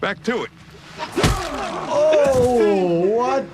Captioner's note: bat thudding